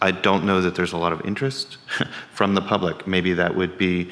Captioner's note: chuckles